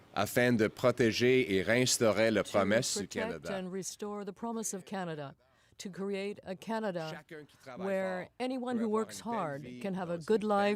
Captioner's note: speaking french